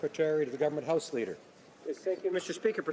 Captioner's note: some Applause